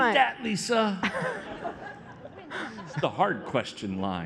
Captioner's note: laughter